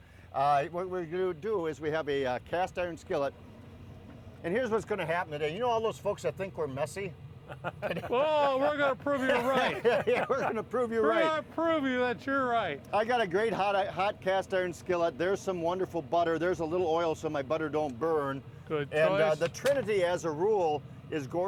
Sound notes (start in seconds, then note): 7.4 man laughing; 9.7 all laughing